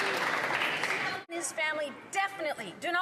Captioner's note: some Applause